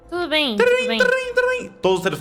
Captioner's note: phone ringing